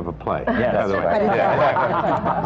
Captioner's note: laughter